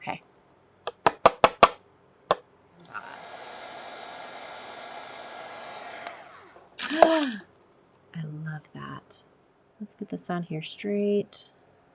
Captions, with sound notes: Okay. (cardstock tapping) (heat gun humming) (gasps) I love that. Let's get this on here straight.